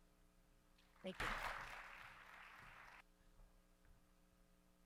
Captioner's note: audience applauds